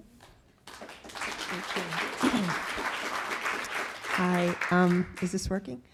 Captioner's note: audience applauding